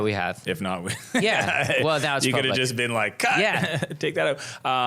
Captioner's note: laughing